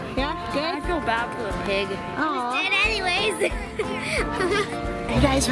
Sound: laughs

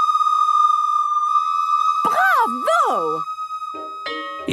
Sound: school bell ringing

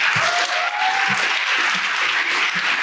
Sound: applause

